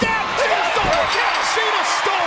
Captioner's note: bell rings